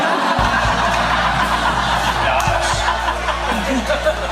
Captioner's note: risas